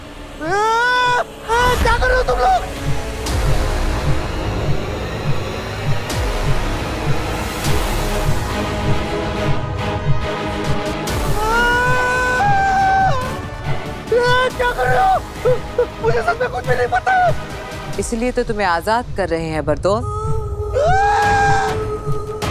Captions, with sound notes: [Shouting] Hey! What are you guys doing? [Shouting] Hey! What are you doing? I really don't know anything. That's why we're setting you free, Bardol. [Shouting]